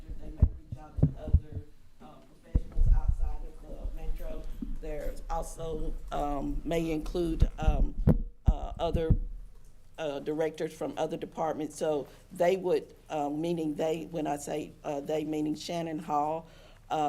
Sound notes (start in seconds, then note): 7.2 microphone rattling